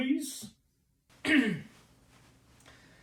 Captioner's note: ahem